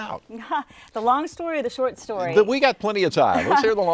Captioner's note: laughs